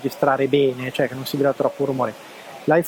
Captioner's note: digital noise